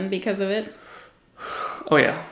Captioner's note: sighs